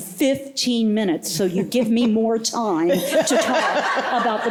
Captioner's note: laughter